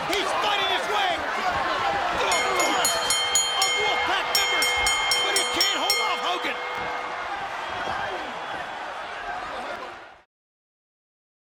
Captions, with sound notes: He's fighting his way through a flood of Wolfpac members, but he can't hold off Hogan! (crowd noise)